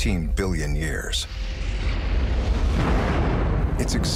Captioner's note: explosion